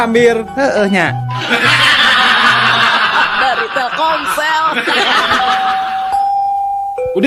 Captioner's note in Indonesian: tertawa